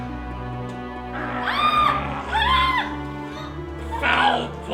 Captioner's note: woman shrieks; mad Umpire growls